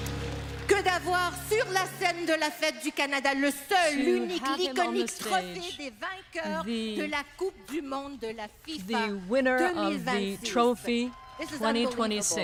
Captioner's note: speaking French